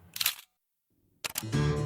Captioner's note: camera shutter clicks; chill music